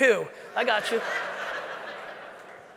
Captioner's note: audience laughing